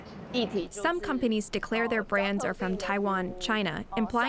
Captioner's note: through translator